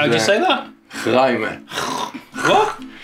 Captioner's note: making guttural sounds